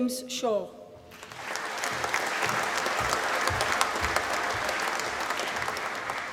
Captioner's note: applause